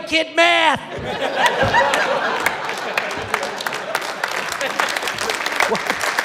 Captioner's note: applause